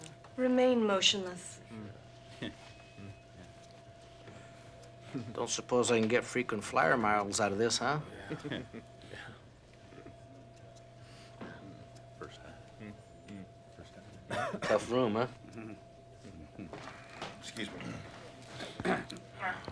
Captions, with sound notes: or something? Remain motionless. Don't suppose I can get frequent flyer miles out of this, huh? (indistinct conversation) Tough room, huh? Mm-hmm. Excuse me.